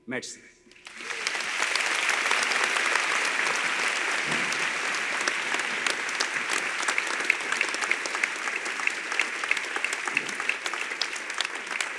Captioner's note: applause